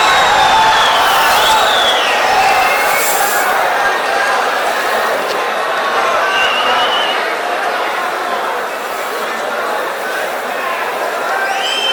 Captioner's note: wild applause and cheering for 22 seconds